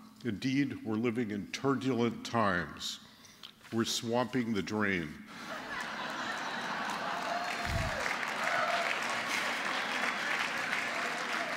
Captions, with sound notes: Indeed, we're living in turdulent times. We're swamping the drain. [LAUGHTER] [APPLAUSE]